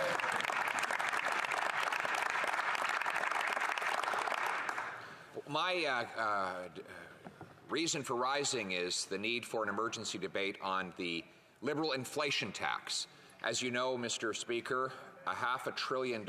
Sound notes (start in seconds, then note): 5.9 applause